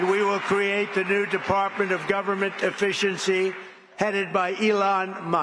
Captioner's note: applause